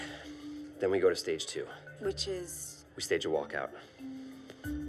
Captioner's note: none